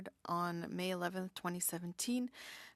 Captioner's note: speaking French